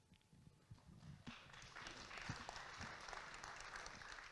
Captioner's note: audience claps